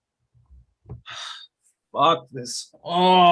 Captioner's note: agent sighing